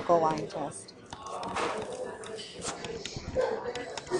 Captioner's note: stylus taps